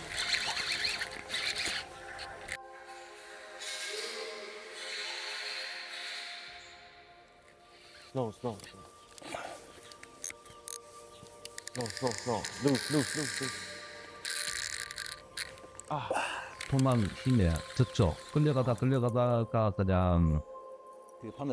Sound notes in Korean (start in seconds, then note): 15.8 탄식